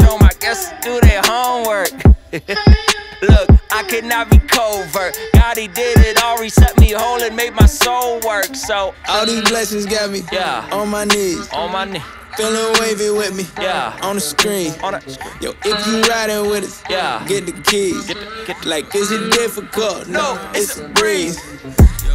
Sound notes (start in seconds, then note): 1.7 chuckling